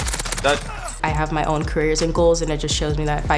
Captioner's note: gun fire